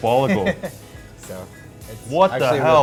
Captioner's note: laughing